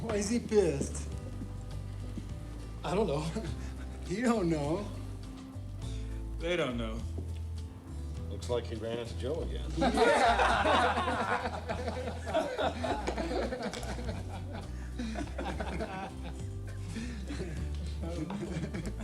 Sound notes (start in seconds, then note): 9.7 all laughing; 13.8 gentle upbeat music